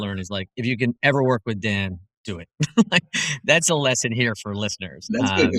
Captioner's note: laugh